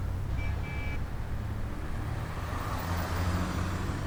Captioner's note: horn honks